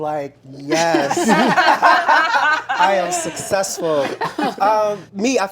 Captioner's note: laughter